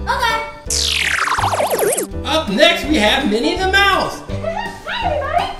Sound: voiceover

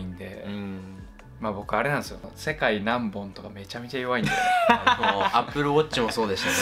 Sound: laughs

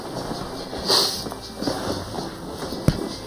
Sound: sniffling

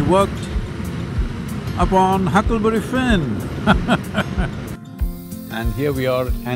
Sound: laughs

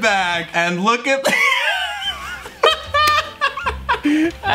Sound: laughs

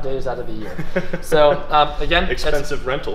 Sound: laughing

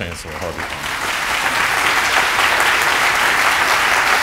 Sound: applause

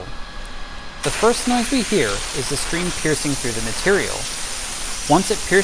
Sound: sound of water piercing

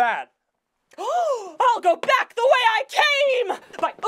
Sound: gasp

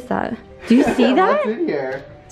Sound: chuckles

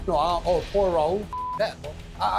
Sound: beep

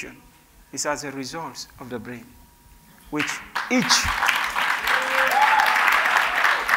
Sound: cheers and Applause

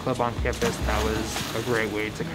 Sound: water splashing

